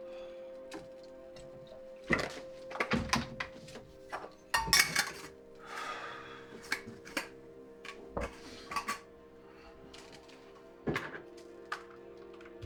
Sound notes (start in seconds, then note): 4.5 metallic rattling